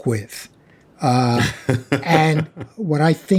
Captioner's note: laughing